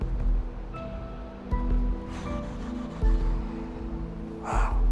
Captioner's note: exhaling